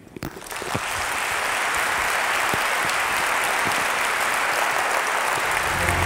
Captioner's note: applause